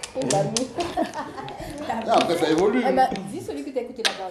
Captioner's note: laughs